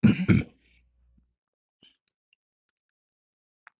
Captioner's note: clears throat